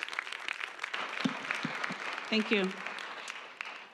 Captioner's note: applause